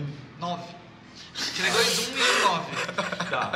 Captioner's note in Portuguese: risada